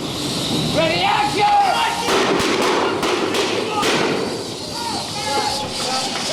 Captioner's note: explosions and Duke yelling lines